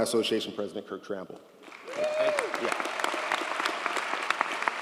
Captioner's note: audience applauds